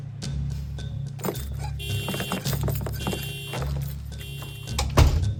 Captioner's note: pounding music continues; car horn honks